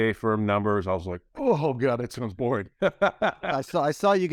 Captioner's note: laughs